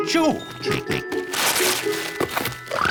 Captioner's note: snorts